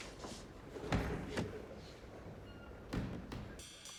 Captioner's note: door opens and closes